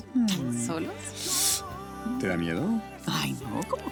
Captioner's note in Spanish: Risas